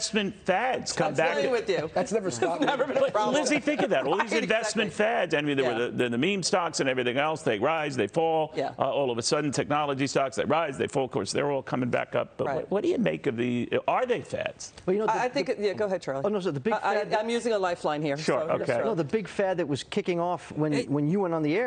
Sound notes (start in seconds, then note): 2.3 laughter